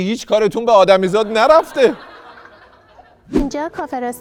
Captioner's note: laughter